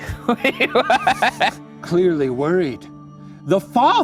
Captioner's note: laughing